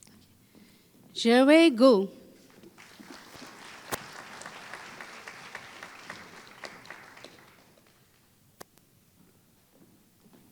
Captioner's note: applause